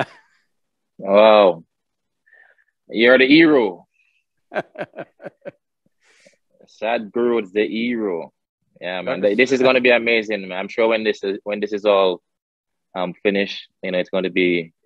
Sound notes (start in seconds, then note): 0.0 laughs; 4.5 Sadhguru laughs